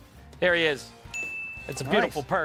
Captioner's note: bell dings